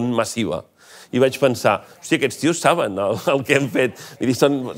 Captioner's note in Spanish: ríe